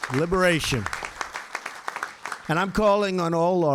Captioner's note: applause